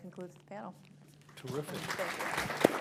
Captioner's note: applause